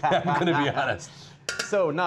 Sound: laughing

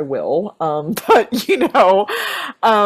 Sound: laughs

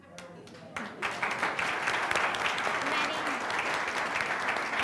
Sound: audience applauding

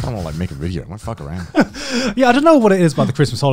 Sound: laughing

